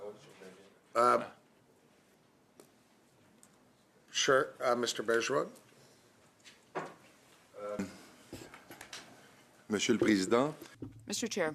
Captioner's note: calling of recorded vote